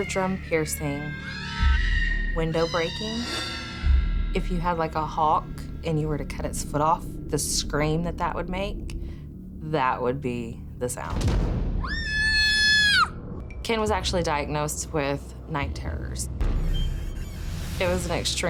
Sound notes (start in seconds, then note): 11.8 baby screaming